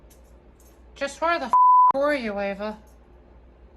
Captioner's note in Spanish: bip